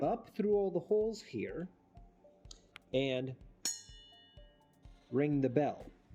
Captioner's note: ping